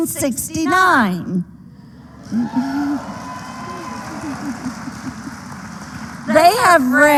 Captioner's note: applause